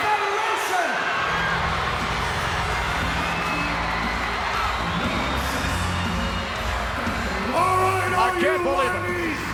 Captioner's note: applause